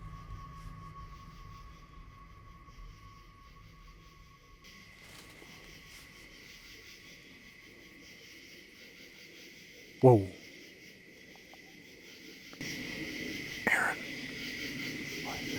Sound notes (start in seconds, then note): 1.1 insects chirping